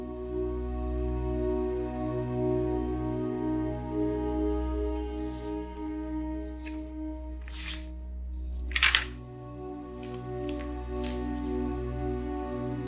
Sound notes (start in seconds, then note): 8.3 papers rustling